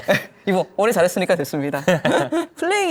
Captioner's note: laughs